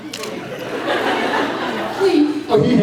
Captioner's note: laughs